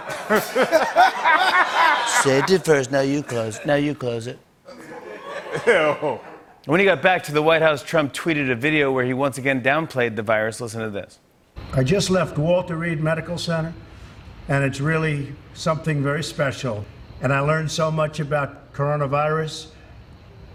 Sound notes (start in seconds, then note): 0.0 As Trump; 0.0 laughter; 4.6 laughter